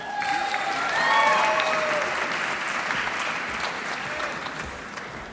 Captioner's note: applause